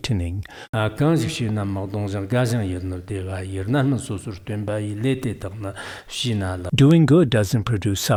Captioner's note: giving oral transmission in Tibetan